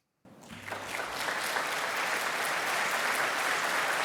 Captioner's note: audience applauding